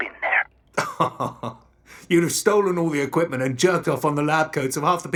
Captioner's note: laughing